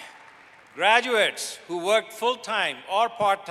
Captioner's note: applause